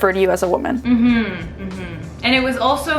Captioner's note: humming affirmatively